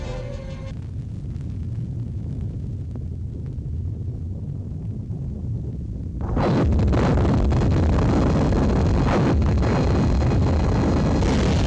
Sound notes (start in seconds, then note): 0.2 volcano rumbling; 6.2 explosion rumbling